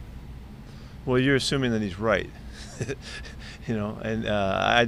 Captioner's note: laughing